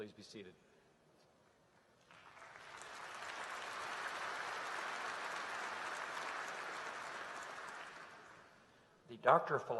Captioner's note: applause